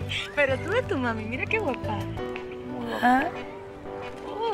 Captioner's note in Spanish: Ríe